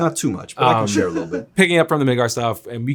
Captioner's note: Zack laughs